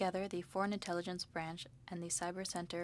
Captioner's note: speaking French